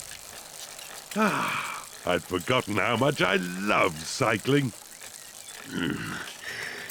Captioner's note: sighs happily; grunts